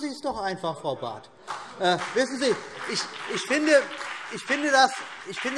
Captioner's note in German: Beifall BÜNDNIS 90/DIE GRÜNEN